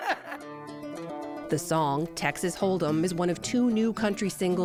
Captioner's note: laughter